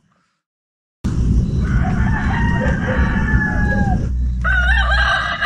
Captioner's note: chicken sound / Dog sound